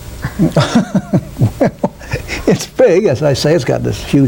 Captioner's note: laughs